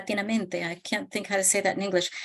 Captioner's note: speaking in Spanish